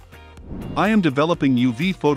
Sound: whoosh

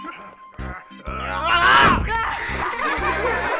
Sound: shouting; laughing

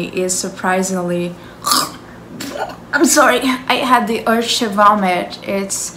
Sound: puke sounds

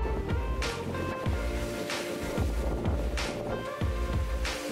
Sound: breezing winds

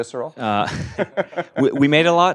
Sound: laugh

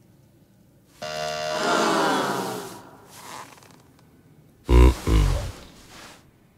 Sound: audience jeering; groaning

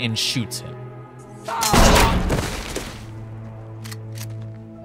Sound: a diegetic scream and percussive gun shot fire

